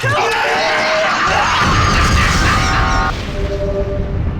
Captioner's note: crazed laughter, booming explosion